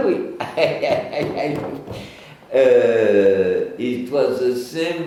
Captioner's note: chuckles